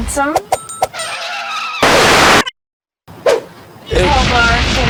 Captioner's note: television static